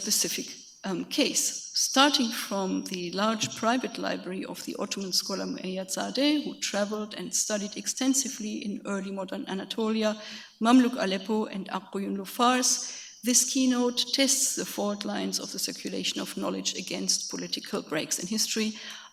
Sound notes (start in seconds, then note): 9.1 speaks foreign language